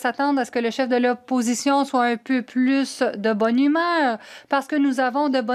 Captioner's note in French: voix de l'interprète